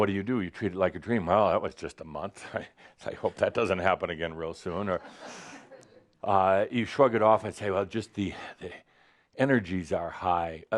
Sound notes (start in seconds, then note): 5.0 some chuckles